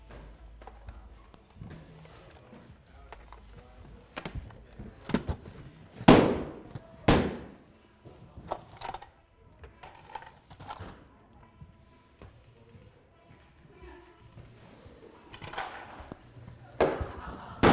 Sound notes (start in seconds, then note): 7.0 balloons popping